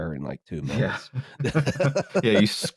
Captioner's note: laughter